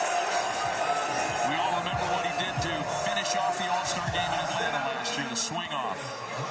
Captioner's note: cheering